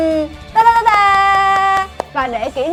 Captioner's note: claps